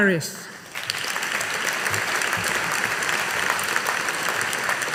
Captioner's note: audience applauding